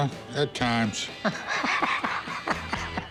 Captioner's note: laughter